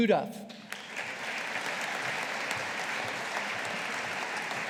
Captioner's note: audience applauding